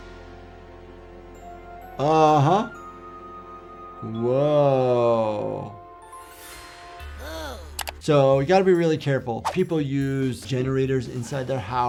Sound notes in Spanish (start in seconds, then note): 0.1 música dramática; 7.2 Lifty suspira